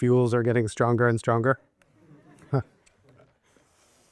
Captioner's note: chuckles